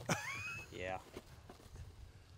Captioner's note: laughter